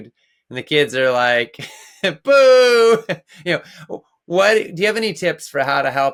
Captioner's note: chuckles